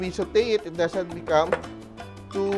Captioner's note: knock